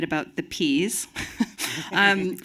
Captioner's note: chuckling